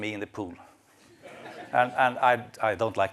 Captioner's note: laughter